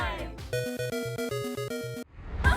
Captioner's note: arcade-game sounds